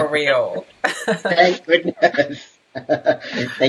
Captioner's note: laughs